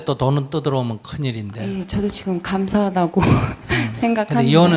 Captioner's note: questioner Laughter